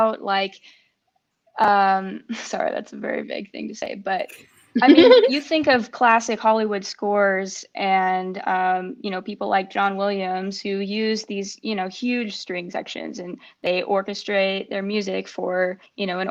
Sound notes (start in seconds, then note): 4.7 laugh